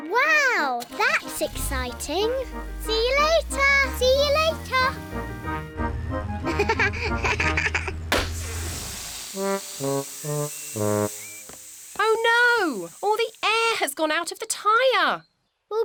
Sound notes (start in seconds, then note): 6.4 laughs; 8.0 tire pops, hisses